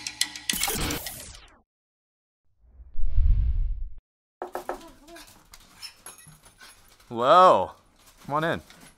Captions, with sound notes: (knocking) Hello, come on in.